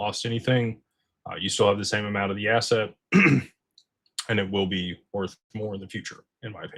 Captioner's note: clears throat